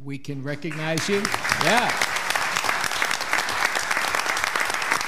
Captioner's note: audience clapping